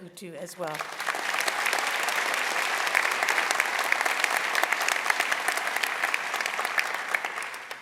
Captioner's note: applause